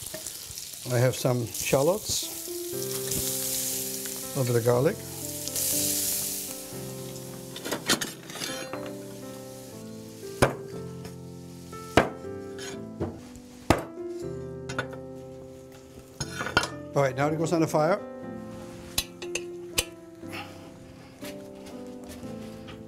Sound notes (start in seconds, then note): 7.9 sizzling; 11.0 knife sound, chopping